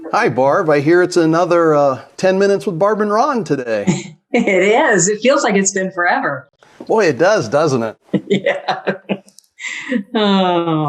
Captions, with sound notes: Hi Barb, I hear it's another 10 minutes with Barb and Ron today. It is it feels like it's been forever. Boy, it does, doesn't it? (laughing) Yes.